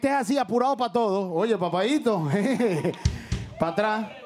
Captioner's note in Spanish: Ríe